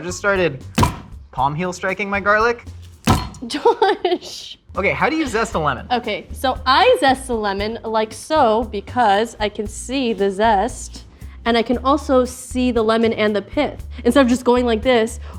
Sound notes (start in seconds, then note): 3.0 garlic smashing